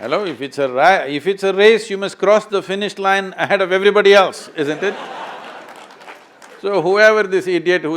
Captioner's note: laughter